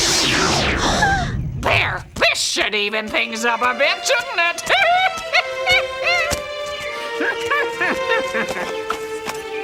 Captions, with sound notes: - There. This should even things up a bit, shouldn't it? (laughing)